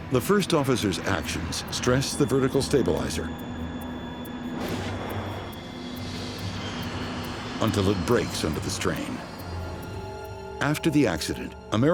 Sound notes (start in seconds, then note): 4.8 metal bangs; 6.7 plane screaming